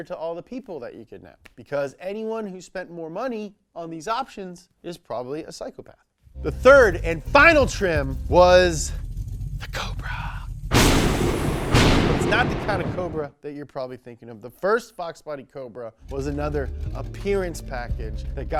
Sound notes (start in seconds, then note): 10.7 thunder cracks